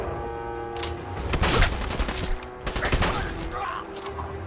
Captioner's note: gunshots boom